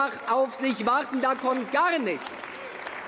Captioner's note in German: Beifall